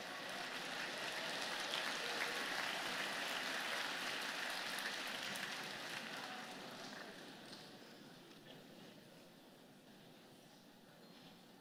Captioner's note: applause